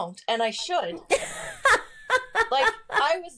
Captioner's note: laughs